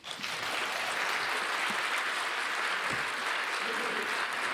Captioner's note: audience applauding